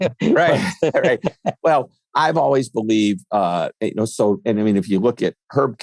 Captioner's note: laughs